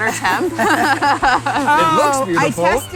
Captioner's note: laughs